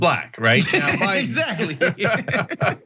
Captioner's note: laugh